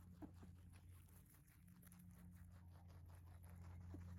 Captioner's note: bunnies chewing sounds